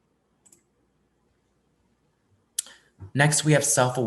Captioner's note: mouse clicking